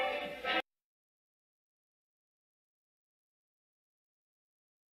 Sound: silence

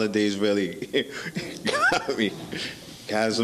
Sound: laughing

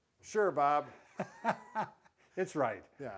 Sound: laughs

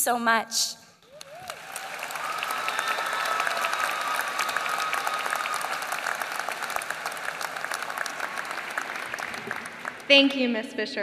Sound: applause

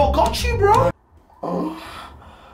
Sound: moans

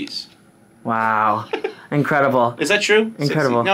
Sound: giggles

